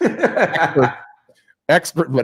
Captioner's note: laughs